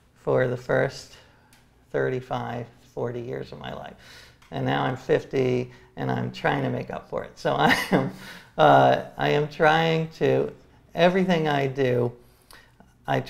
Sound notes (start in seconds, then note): 7.8 laughs